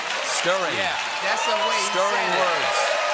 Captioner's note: applause